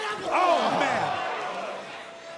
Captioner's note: crowd cheering